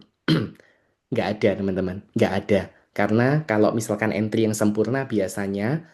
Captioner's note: berdehem